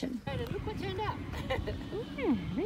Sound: laughter

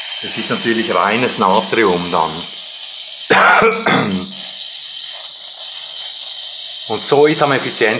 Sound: coughes

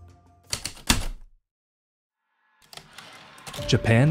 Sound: heavy typewriter keystrokes, typewriter return slide, ♪ atmospheric

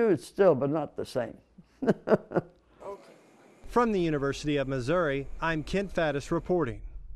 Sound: laughing

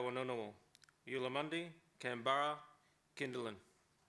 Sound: speaks Ngunawal

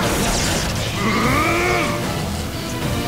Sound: gasping

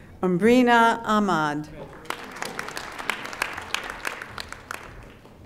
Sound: audience applauding

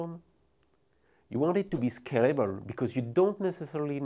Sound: text whooshing

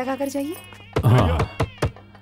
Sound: door knock

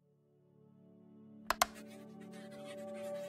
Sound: click

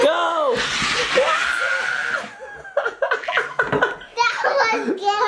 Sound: laughs hysterically

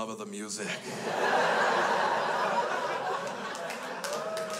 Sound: crowd laughs

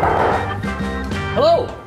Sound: knocking

